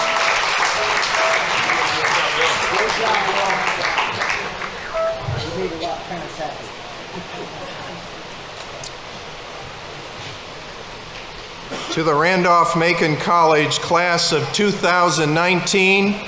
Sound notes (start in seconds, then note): 2.2 people chattering